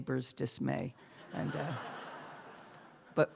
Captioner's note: laughter